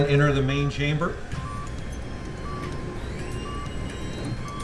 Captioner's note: machine beeping and whirring